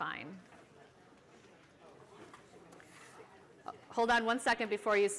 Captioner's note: chatter